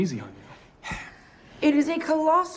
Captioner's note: sighs